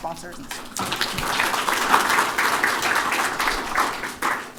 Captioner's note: applause